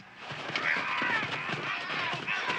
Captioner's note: players grunting